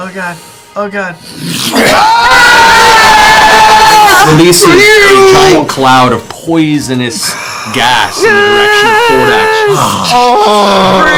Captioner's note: screams